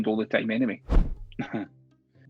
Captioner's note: chuckles